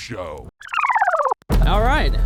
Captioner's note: film rewinding